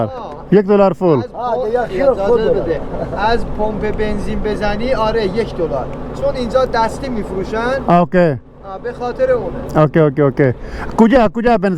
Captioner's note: speaking in Persian